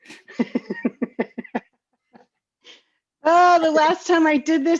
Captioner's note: laughing